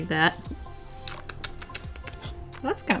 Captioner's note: clicking thinking sounds